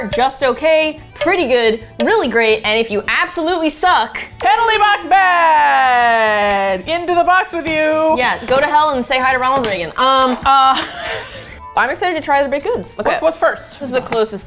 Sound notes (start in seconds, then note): 10.6 both laugh